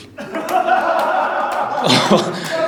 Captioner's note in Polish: głośny śmiech z widowni